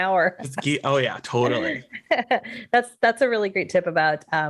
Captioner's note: laughs